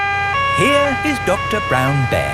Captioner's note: siren wailing